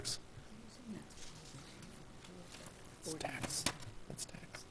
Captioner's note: whispering